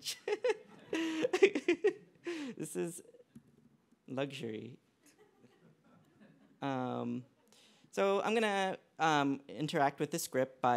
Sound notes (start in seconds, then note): 5.0 laughter